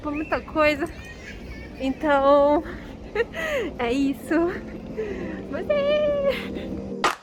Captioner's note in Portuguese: risadinhas